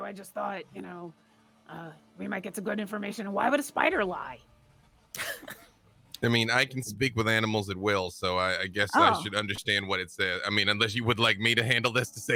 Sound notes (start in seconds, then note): 5.1 laughs